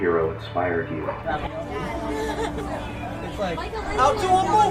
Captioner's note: crowd chattering